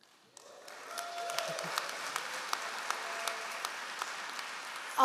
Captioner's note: all applauding